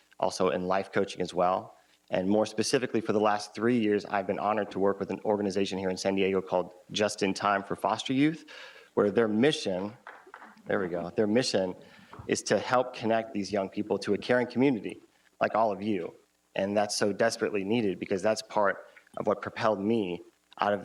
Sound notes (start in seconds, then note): 10.0 audience member applauds